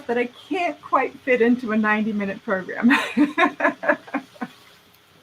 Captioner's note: laughing